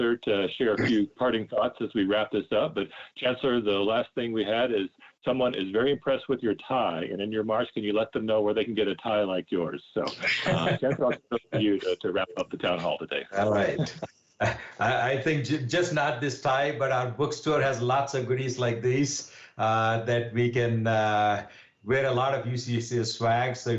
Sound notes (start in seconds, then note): 10.0 laughs